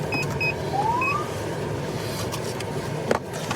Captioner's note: siren chirps